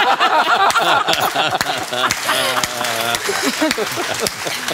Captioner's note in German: Lachen und Applaus